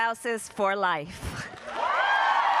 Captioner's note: cheering and applause